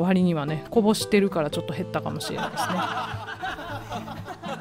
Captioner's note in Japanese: 笑い声